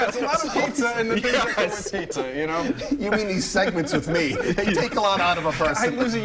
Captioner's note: laughter